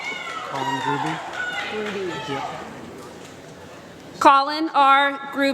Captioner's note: applause